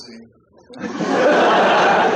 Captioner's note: laughter